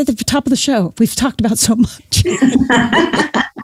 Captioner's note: laughs